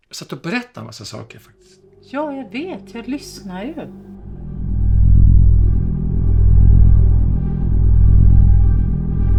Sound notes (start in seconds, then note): 2.1 threatening ambient music; 3.8 A threatening electronic rumble; 5.1 threatening ambient music